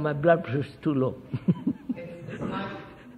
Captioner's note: laughs